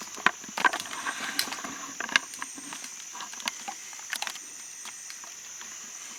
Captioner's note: equipment clicking and shuffling